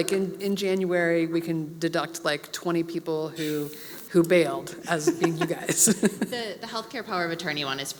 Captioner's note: laugh